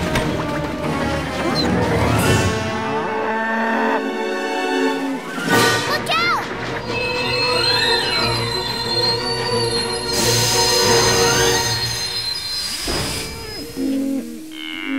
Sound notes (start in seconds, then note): 3.1 mooing